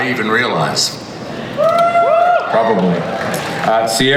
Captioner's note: audience cheers